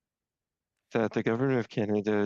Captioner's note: speaking French